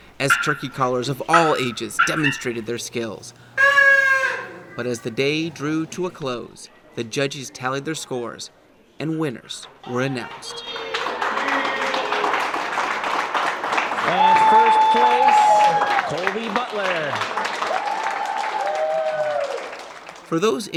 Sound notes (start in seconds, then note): 3.4 turkey sound; 10.2 crowd cheering and applause